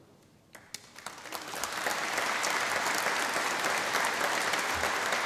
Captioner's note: audience applause